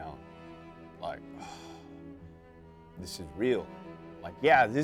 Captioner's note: sighs